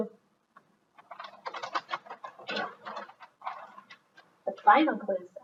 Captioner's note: paper rustles